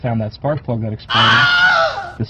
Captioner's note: Wilhelm Scream